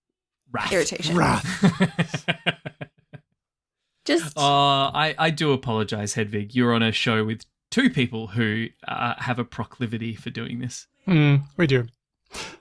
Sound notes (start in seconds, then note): 3.8 laughs